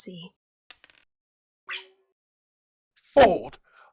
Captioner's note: dice roll, intercom bleeps